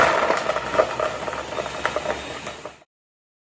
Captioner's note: blender whirs